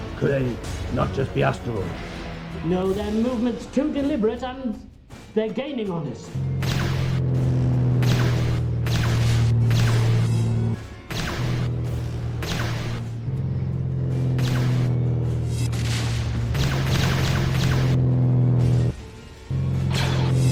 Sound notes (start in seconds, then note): 6.5 laser blasts; 15.6 explosion rumbles; 16.6 laser blasts